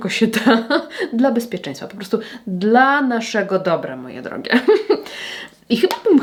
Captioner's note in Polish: śmiech